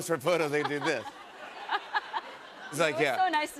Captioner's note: laughter